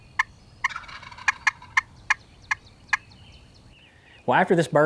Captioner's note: turkey gobble